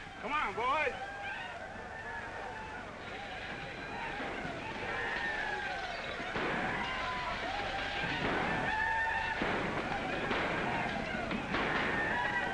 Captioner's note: sounds of chaos & destruction